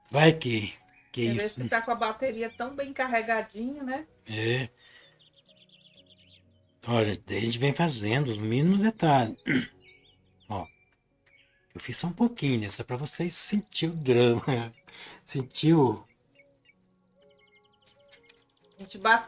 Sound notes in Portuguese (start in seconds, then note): 9.4 limpando a garganta